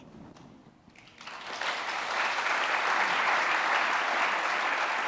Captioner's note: audience applauding